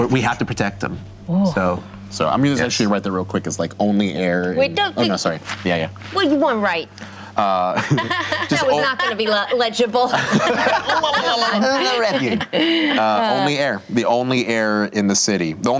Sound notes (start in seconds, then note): 7.8 laughing; 10.7 group laughter